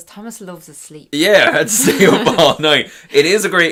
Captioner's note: they laugh